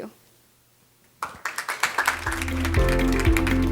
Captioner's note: audience clapping; upbeat music